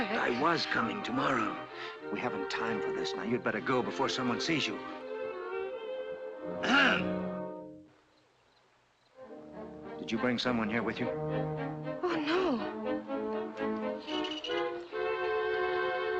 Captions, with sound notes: I was coming tomorrow, we haven't time for this, you'd better go before someone sees you. [ HOPPY CLEAR HIS THROAT ] Did you bring someone here with you? Oh no. [ SUSPENSEFUL MUSIC ]